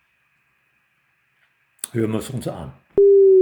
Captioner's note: modulated signal